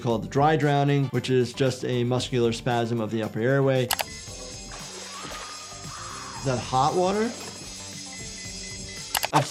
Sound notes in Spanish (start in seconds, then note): 4.3 salpicaduras de agua; 5.0 personaje gritando; 8.3 sonido de alarma